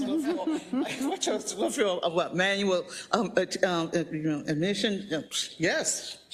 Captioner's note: laugh